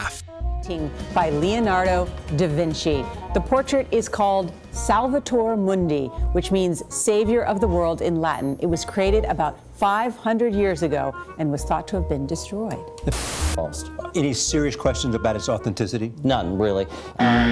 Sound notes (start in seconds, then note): 0.6 voice of newscast